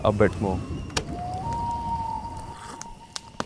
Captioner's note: wild bird wails